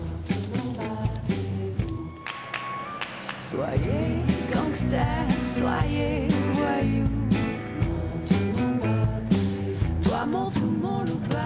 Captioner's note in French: chant